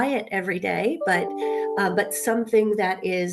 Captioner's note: computer chimes